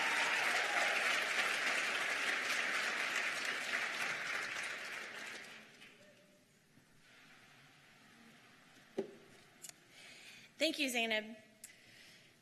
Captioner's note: applause